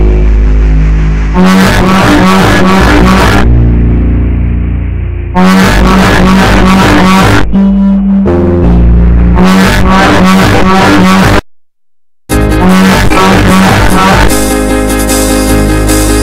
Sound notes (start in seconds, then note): 0.0 sound of panic; 5.3 horn